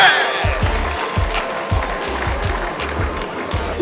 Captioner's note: applause